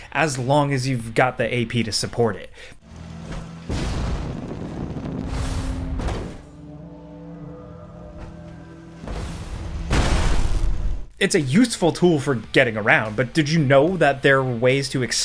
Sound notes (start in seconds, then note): 3.0 intense ambient music; 5.9 loud thump